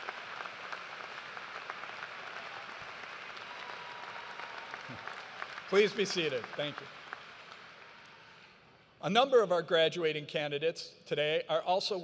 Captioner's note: cheers and applause